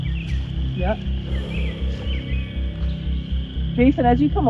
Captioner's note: exhales